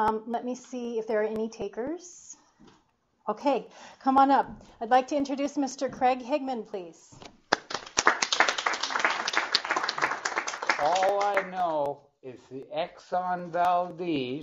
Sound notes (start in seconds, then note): 7.5 applause